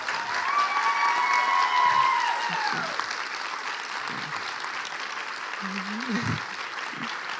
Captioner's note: cheers and applause